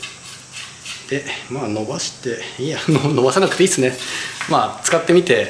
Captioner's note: laughs